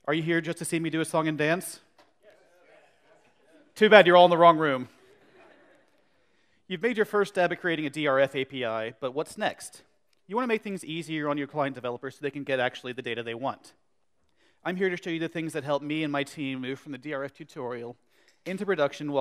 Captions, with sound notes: Are you here just to see me see a song and dance? (audience agreeing) Too bad, you're all in the wrong room. You've made your first step at creating a DRF API, but what's next? You want to make things easier on your client developers so they can get actually the data they want. I'm here to show the things that helped me and my team move from the DRF tutorial into production